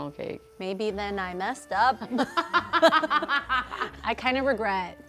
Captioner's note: laughing